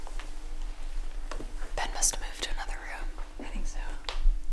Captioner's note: whispering